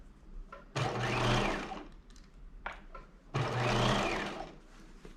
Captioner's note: sewing machine whirring